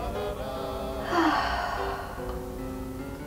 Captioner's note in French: soupire